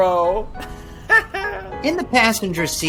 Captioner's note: Ted chuckling